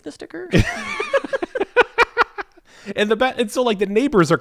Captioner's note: laughing